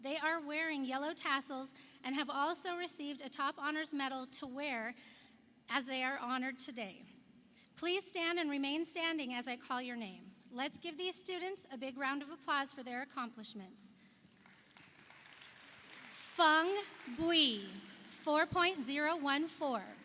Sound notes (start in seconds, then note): 14.3 audience applauds